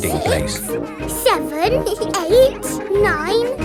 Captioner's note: both giggle